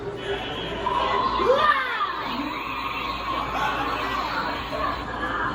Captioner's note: aliens groaning